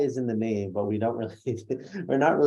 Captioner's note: laughs